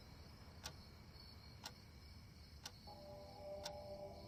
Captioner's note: clock ticks